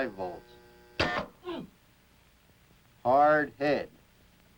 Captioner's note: buzzes; subject grunts